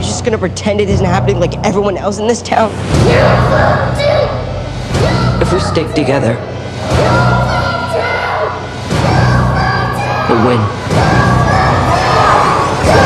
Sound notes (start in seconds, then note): 3.6 yelling; 7.8 screaming; 11.7 yelling